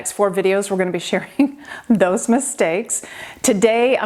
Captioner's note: laughing